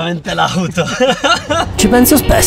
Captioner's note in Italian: risate